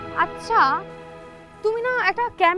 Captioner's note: none